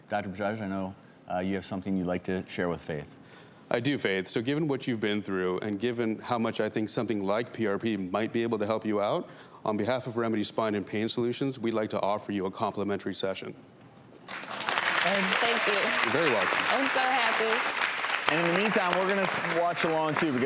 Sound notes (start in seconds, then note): 14.2 audience applauding